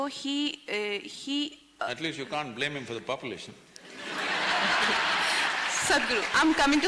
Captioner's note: laughter